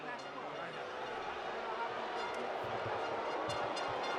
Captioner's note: crowd booing